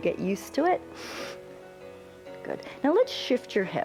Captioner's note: inhales